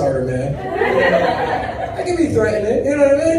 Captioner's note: audience laughs